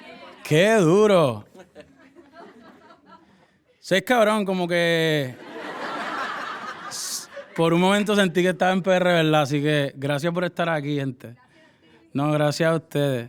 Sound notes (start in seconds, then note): 5.3 audience laughing